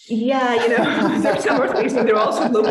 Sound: laughing

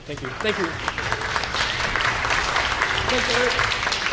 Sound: orchestra applauds

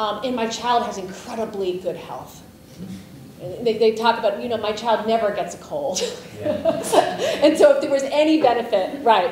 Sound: laughs

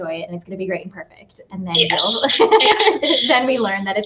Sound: laughs

